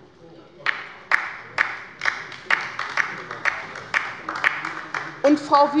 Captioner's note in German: Beifall bei der LINKEN